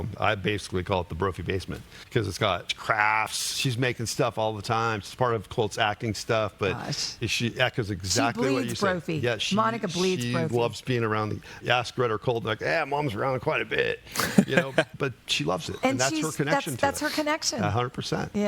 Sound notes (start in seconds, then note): 14.1 laughing